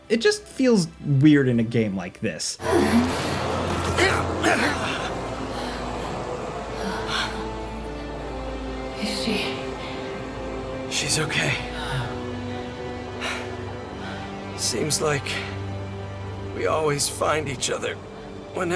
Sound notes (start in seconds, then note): 2.6 characters grunting; 13.5 dramatic music